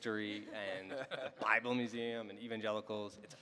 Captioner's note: panelists laughing